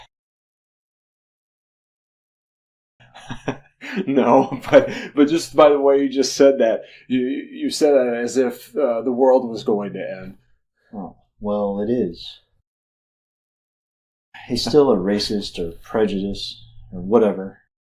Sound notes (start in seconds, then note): 0.2 silence; 3.0 chuckles